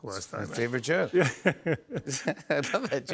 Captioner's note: laughs